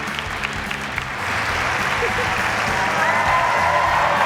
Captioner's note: laughs